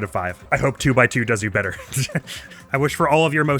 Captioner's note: laughs